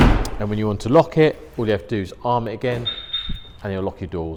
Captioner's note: beep beep